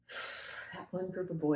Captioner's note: blows out air